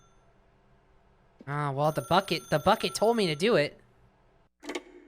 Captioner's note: phone ringing; phone ringing; phone lifting off receiver